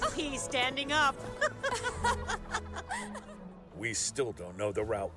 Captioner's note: they laugh